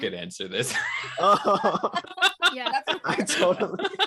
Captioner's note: laughter